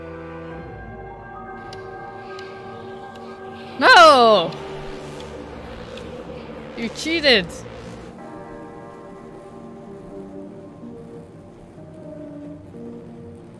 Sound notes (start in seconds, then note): none